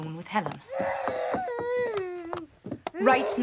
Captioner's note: moaning